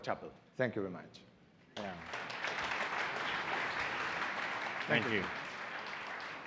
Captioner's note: audience applauds